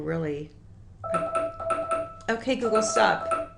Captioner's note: beep